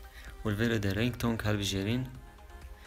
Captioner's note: Ringtone